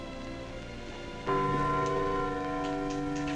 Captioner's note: clock chiming